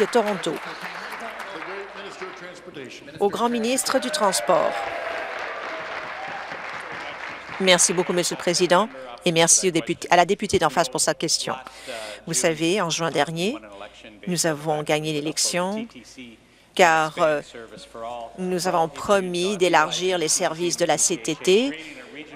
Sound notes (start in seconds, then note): 1.4 applause; 7.1 applause; 7.6 cheers